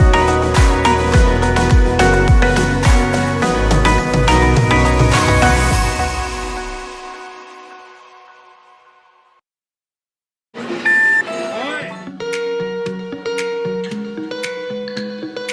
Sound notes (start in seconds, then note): 10.9 machine chimes; 11.4 gentle upbeat music